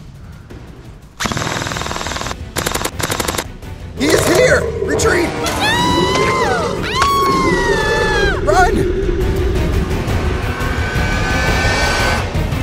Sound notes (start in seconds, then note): 1.2 gunshot firing; 5.4 screams; 9.3 tense music playing